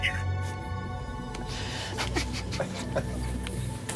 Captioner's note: people laughing